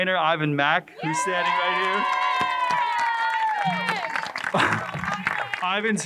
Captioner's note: crowd cheering and applauding